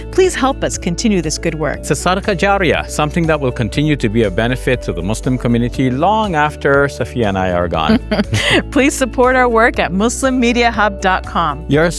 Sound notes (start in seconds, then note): 2.0 speaking in foreign language; 7.9 laughing